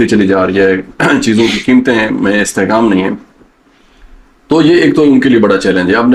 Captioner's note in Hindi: गला साफ करते हुए